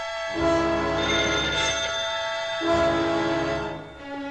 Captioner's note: telephone ringing